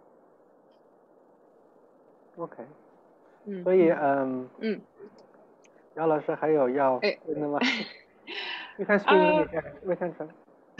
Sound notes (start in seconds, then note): 2.9 Mandarin; 9.2 laugh